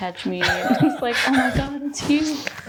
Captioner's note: laughing